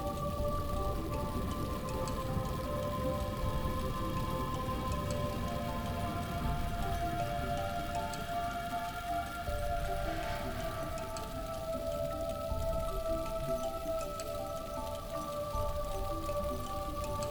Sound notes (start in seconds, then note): none